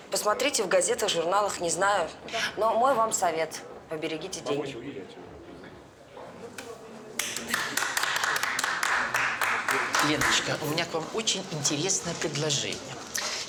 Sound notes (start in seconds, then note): 7.2 applauds